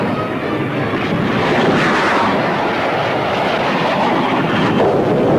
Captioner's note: missile whooshes; explosion booming